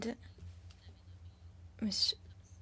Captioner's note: speaking French